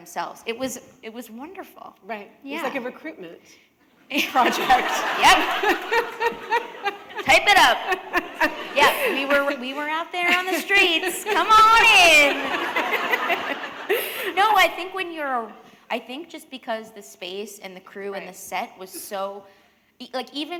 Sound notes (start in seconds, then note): 13.3 laughter